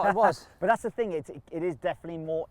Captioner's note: laughs